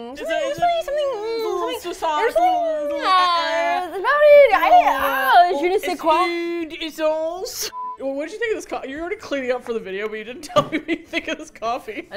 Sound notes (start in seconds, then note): 5.7 making French sounds; 10.4 laughing; 10.5 both laugh